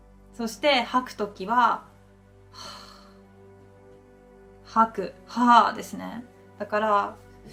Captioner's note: exhale